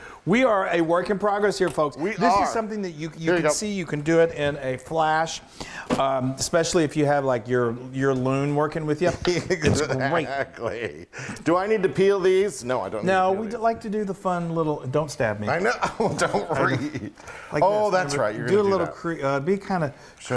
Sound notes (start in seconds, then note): 9.3 laugh